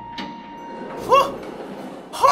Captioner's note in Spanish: Sorprendido